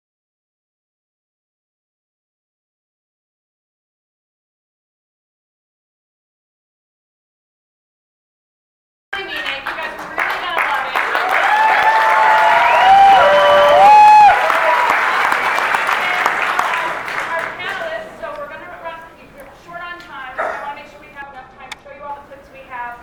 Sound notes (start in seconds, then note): 14.7 cheering